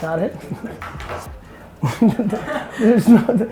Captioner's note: laughter